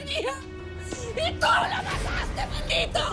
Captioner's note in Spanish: Sollozos